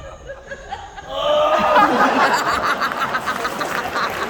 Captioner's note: crowd